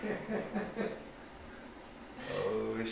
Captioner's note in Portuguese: risos